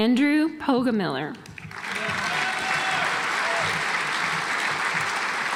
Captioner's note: audience applauds